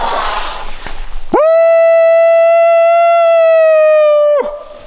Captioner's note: howling